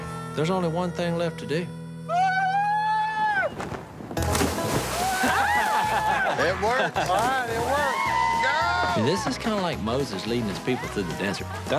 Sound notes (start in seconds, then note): 2.0 screams; 5.1 all laughing